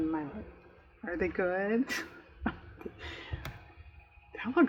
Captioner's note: laughs